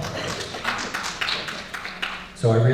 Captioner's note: audience Clapping